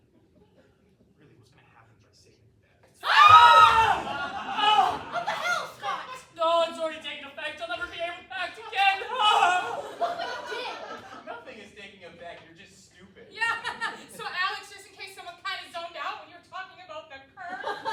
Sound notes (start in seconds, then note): 3.0 everyone screams